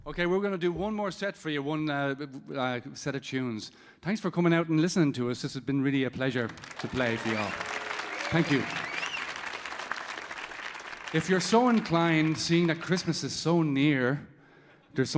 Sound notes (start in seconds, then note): 6.4 audience applauding